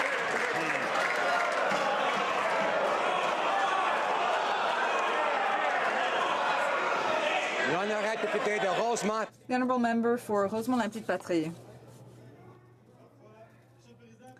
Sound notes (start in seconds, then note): 3.3 some Applause